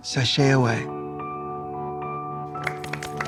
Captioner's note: applause; melancholy music